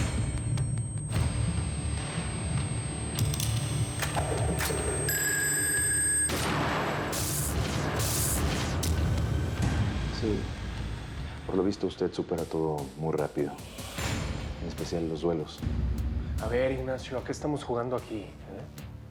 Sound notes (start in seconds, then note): 3.1 Ruidos metálicos; 7.2 Detonación de disparo